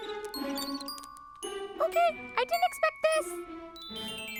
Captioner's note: high, squeaky voice